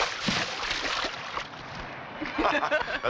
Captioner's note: laughing